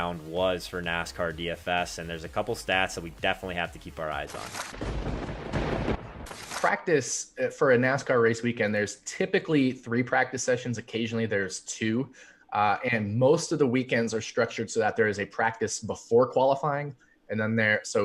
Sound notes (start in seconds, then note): 4.8 thunder rumbling